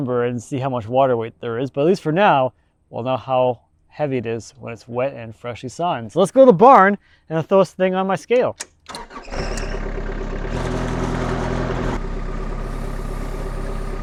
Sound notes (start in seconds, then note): 8.6 starter sputtering; 10.9 engine rumbling